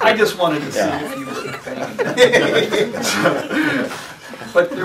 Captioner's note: laughter